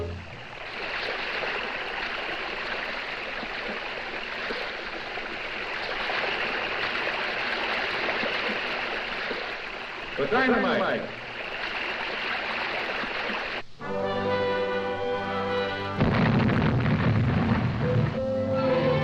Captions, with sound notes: (water splashing) - The dynamite. (water splashing) (light music) (explosion booms)